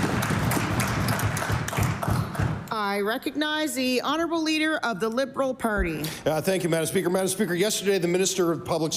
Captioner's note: applause